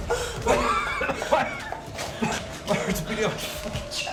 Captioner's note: coughing; wind whirling